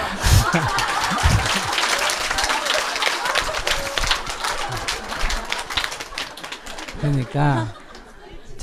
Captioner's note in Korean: 스님과 청중 웃음; 청중 박수